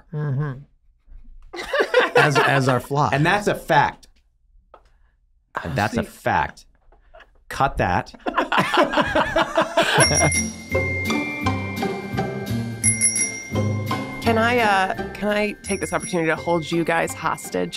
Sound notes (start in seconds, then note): 1.6 all laughing; 8.2 all laughing; 9.8 cheerful melodic music